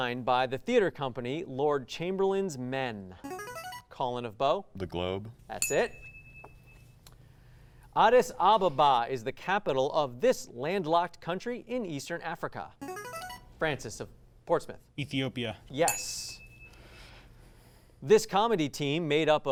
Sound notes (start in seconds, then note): 3.2 ring-in sound; 5.6 ding sound; 12.8 ring-in sound; 15.8 ding sound